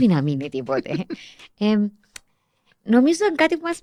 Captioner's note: he laughs